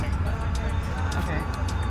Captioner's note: people chattering